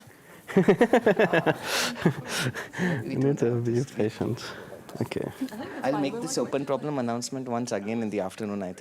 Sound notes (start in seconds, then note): 0.5 laughter